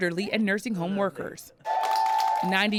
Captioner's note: cheering and applause